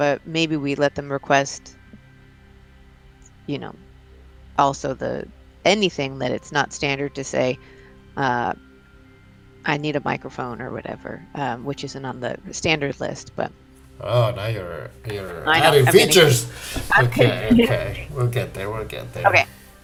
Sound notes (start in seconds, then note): 17.6 laughs